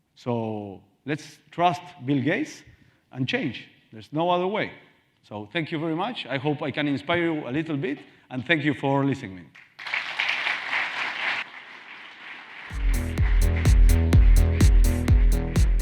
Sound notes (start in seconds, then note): 9.6 Aplaudiendo audiencia; 12.7 música optimista